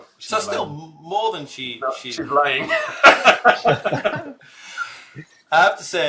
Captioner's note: laughs